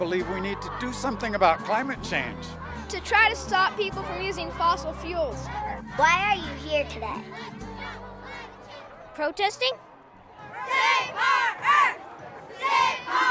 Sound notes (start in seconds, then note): 9.8 protesters chanting